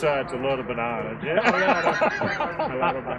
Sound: laughter

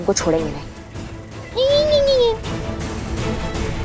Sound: mocks

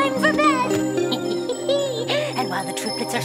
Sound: witch cackles

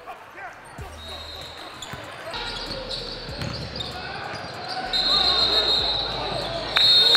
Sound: overlapping chattering; whistle tweets

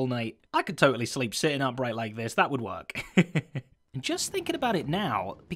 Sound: laughing

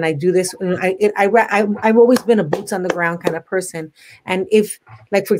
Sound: claps

